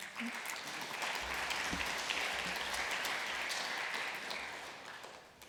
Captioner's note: applause